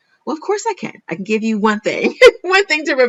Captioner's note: laughs